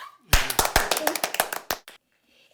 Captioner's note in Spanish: Aplausos